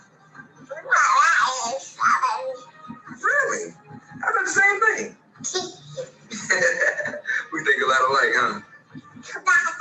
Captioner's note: laughing